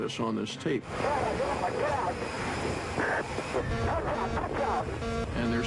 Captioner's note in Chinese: 無線電